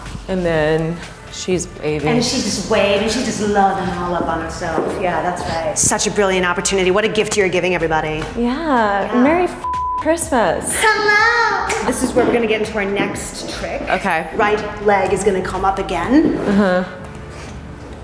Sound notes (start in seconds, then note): 9.6 beep